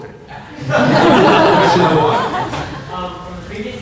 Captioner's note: laughter